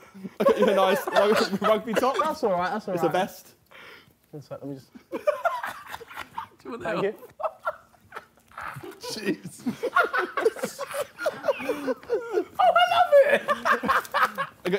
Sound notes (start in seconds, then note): 2.4 laughing